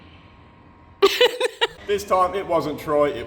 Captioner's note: laughter